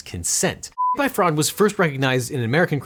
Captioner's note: beep